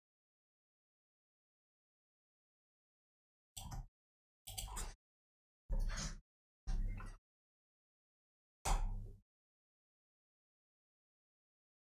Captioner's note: blank Audio